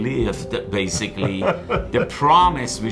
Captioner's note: laughing